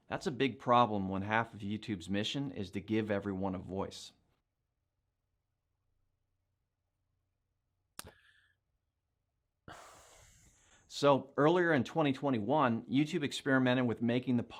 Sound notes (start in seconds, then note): 8.0 smack lips for like a sec; 9.6 tiny sigh